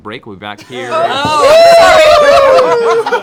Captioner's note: laughs; cheering